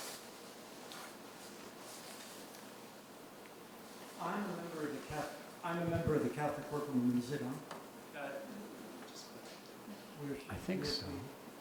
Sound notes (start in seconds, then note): 8.6 moderator speaking off-mic